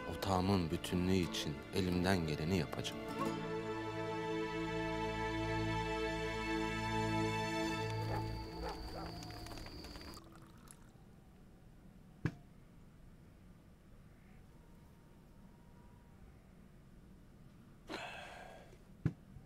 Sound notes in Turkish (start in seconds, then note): 8.0 Köpek havlama sesi; 17.9 Ertuğrul nefes sesi